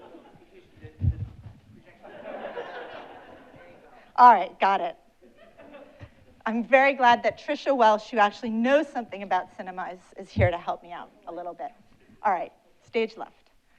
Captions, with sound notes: (audience laughing) Alright, got it. I'm very glad that Tricia Welsch who actually knows something about cinema is here to help me out a little bit. Alright, stage left.